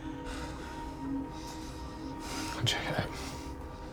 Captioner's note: Richard breathing heavily